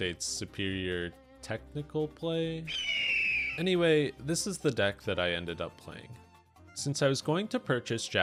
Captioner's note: eagle scream